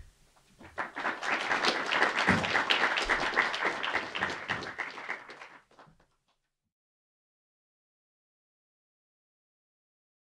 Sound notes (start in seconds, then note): 0.5 audience clapping